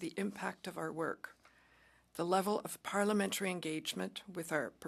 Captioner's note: speaking French